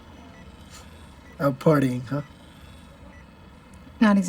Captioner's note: chuckles